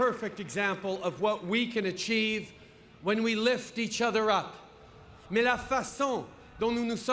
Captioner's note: applause